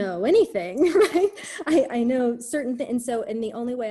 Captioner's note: laughs